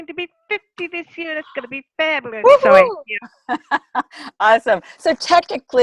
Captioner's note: laugh